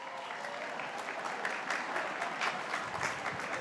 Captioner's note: speaking in foreign language